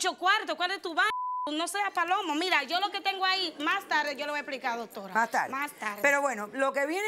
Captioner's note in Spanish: Bip